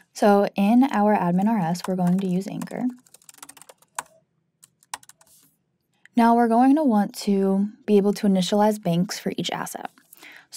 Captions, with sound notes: So, in our admin_rs, we're going to use anchor. (keyboard clanking) Now, we're going to want to be able to initialize banks for each asset.